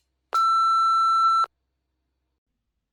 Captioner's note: beeping